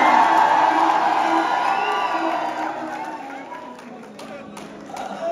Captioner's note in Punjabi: ਤਾੜੀਆਂ